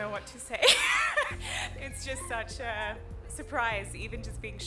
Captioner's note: laughter